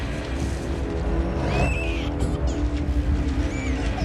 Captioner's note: baby screams